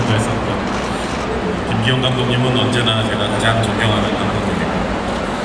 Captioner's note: speaking Korean